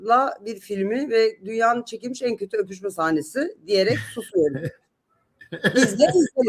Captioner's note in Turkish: kahkaha